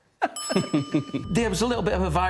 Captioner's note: laughter